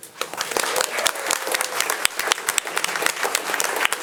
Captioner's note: audience applauding